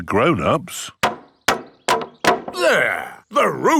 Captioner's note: hammering